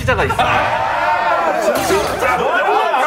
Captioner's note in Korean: 야유 파도타기